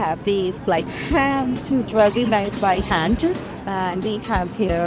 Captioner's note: car motor obscuring voice